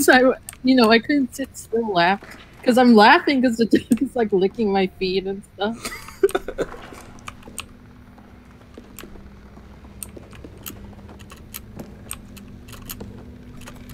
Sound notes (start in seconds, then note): 5.6 laughs